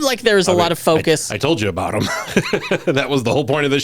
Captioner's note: laughs